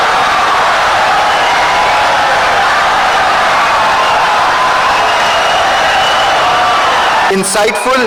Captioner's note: wild applause and cheering for 17 seconds